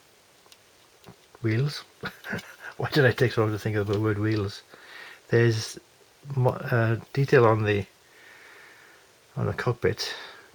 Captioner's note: laugh